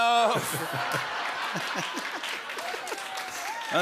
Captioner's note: laughter